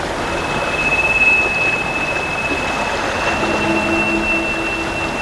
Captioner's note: running water, high-pitched noises